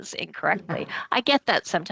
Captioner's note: chuckling